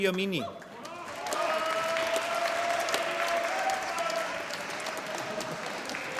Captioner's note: applause